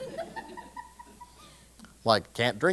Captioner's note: laugh